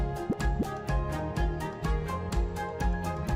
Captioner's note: speech bubbles blip